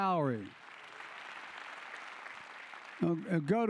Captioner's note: applause